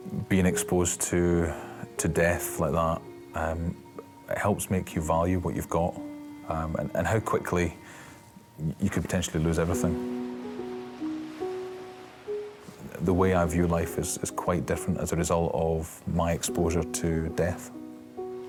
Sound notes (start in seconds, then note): 10.3 waves splashing; 18.2 somber instrumental music